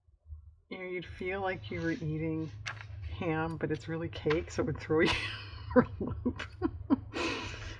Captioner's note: laughs